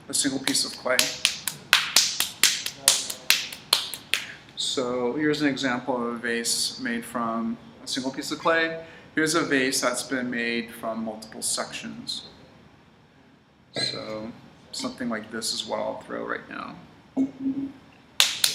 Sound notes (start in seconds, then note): 0.4 slapping sound